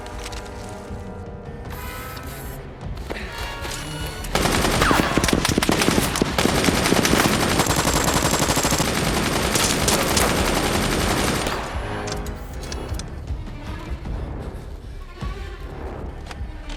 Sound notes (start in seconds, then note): 4.2 gunshots blasting; 13.9 dramatic music